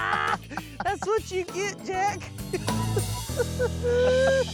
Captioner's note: laughter